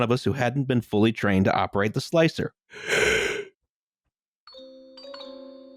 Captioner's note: yaaaaaawns; toybox lullaby